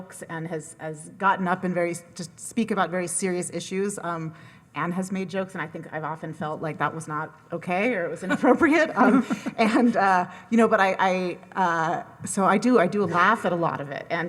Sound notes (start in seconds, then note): 8.3 laughs